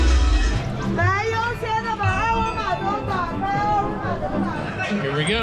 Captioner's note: woman shouting in Chinese